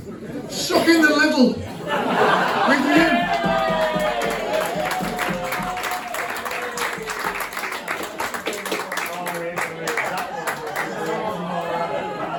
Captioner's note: laughter and applause